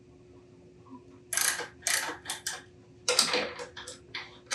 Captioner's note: ratchet clicking